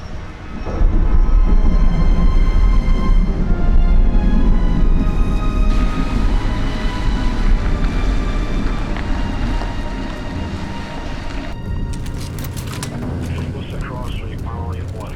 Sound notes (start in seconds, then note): 0.0 traffic roaring; 11.9 weapons clicking; 12.0 walkie-talkies chattering